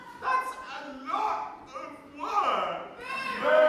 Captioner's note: voice breaking